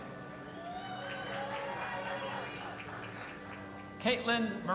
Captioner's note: audience applauding and cheering